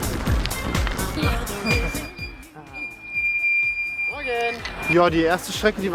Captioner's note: squeak